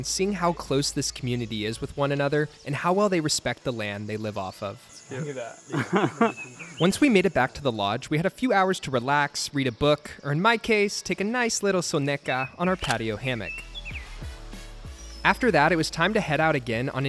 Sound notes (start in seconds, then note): 5.6 laughing